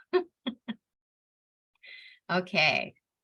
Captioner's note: laughs